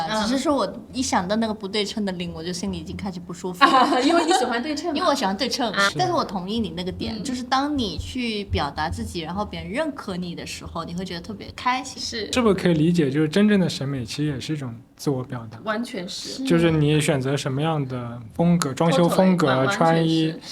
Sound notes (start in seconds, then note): 3.6 laughter